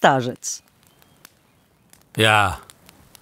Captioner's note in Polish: odgłos palącego się drewna